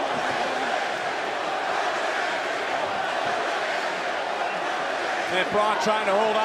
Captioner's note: crowd chants